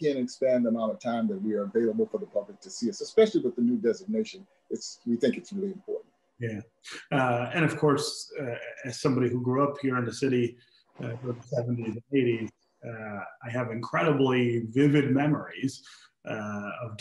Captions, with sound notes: She jammed, she banged it up, and then she dropped the mic. (laughs) She went on to glory and she will never be forgotten, she will always be a part of what we've done. And to much of our success has been credited to her.